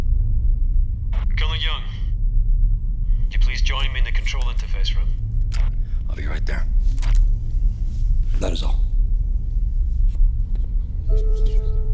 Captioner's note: radio